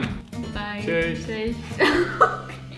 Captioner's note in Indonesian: laugh